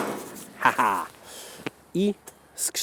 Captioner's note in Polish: śmiech